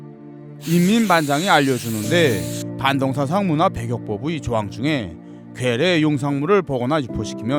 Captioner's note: voiceover